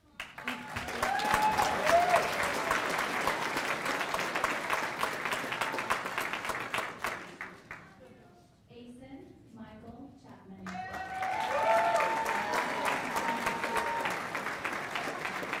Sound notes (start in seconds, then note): 3.2 cheers and applause; 15.1 applause